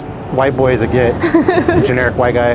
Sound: laughs

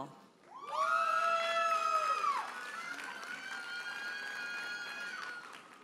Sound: audience cheers and applauds

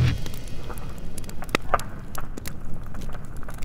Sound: fire crackling

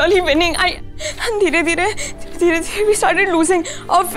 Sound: crying

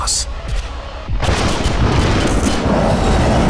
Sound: thunderstorm

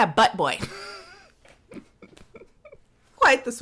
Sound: laughs

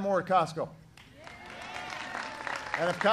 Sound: applause

